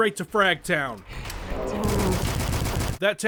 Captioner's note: Black Phillips attack, machine gun fire